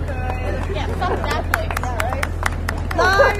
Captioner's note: applause